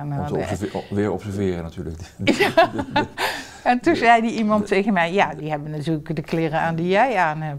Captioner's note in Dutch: Lacht